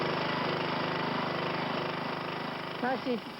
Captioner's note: engine revs